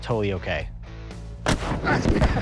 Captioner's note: loud boom; laughing